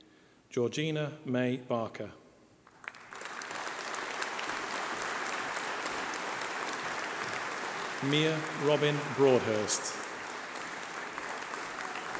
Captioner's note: applause